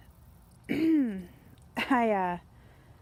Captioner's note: clearing throat